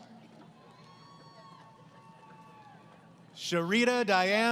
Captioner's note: applause